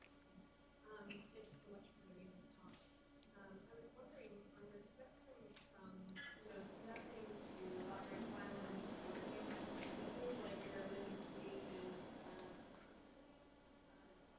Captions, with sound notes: - Thank you so much for giving the talk. I was wondering on the spectrum. (faint talking from woman)